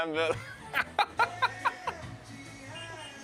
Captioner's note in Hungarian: nevetés